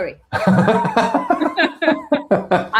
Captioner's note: laughs